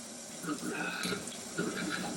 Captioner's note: mixer whirring